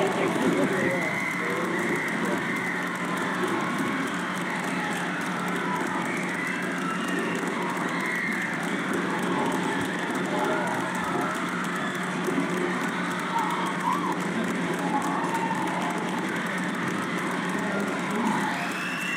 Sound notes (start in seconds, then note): 3.1 cheers and applause